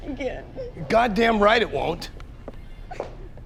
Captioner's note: crying